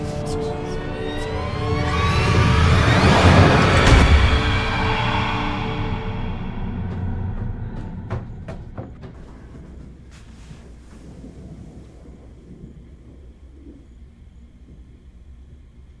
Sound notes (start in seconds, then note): 0.0 ghostly scream; 4.2 dramatic, jarring music; 7.1 running footsteps; 10.8 crickets chirping; 10.8 thunder rumbling